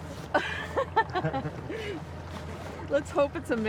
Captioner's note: laughing